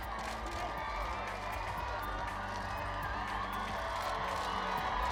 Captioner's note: crowd cheers